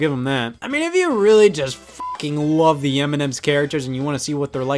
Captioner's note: beep